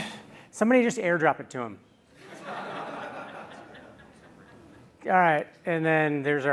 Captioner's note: laughter